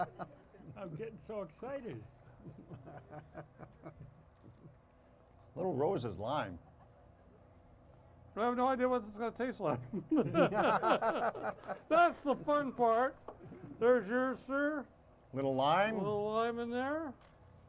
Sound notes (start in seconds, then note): 2.3 chuckles; 9.7 hosts laughing